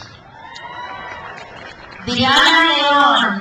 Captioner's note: crowd applauds